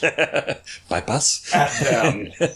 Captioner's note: laughs